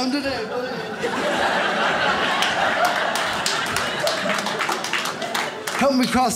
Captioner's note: audience laughs